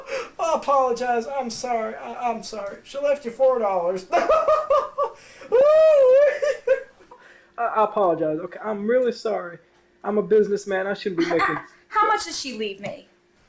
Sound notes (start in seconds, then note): 4.1 hysterical laughing